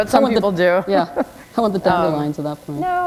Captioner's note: chuckle